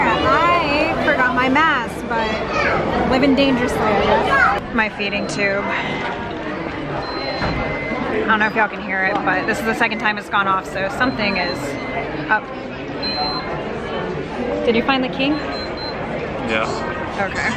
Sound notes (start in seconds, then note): 6.9 device beeping; 15.1 device beeping